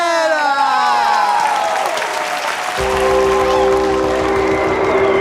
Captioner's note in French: aplaudissement